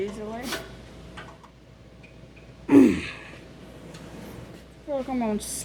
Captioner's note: coughing